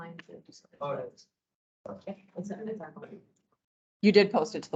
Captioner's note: indistinct chatter